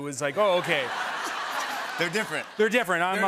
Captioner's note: laughter